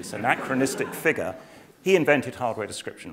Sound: laugh

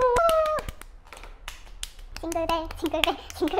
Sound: clap clap clap

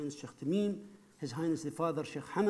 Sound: speaking foreign language

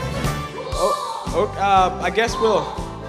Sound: vomits

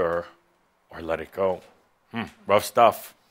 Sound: none

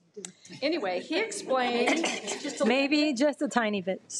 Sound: audience murmuring

